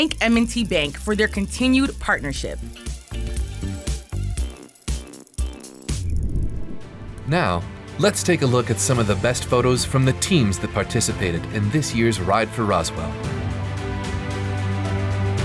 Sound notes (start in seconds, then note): 3.0 bicycles riding; 5.8 graphics whooshing; 7.5 bright motivational music